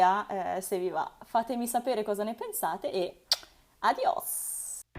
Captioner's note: kiss